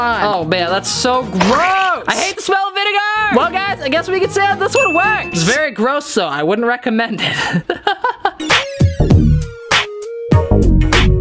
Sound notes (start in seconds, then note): 7.3 laughs; 8.3 funky music